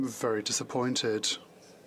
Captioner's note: speaking FRENCH